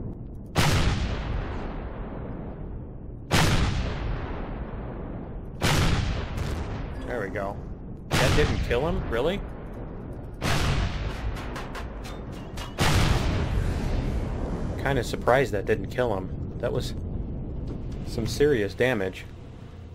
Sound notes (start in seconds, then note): 0.3 rockets firing; 3.2 explosion; 8.0 rockets continue; 9.3 pinging